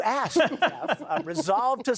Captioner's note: laughter